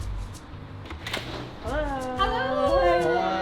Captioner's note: door opening